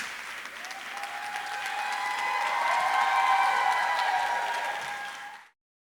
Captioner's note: audience cheering and applauding